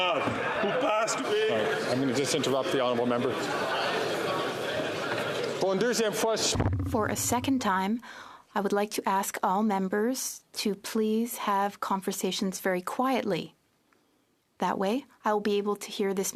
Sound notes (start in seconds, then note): 9.2 speaking French